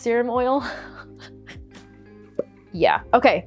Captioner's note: laughing